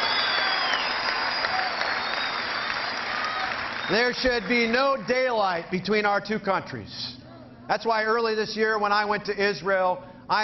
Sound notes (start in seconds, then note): 1.7 cheering